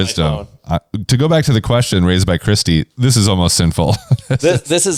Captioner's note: laughs